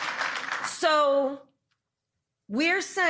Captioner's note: cheers